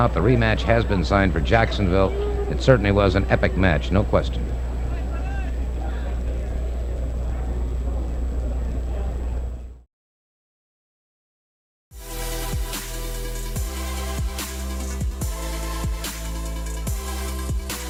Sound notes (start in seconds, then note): 5.1 people chattering distantly